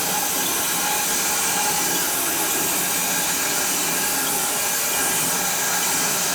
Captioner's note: sawing machine whirring continues